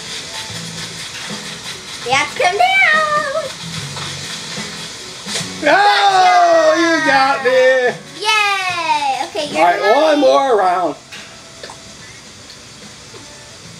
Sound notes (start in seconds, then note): 5.3 net whacks; 5.6 exclaims